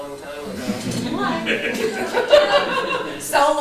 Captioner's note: laughter